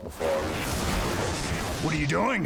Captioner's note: zwoosh